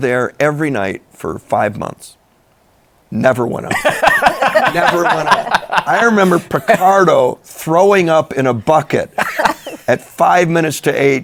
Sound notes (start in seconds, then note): 3.7 laughter